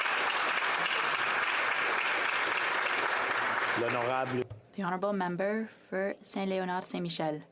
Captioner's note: applause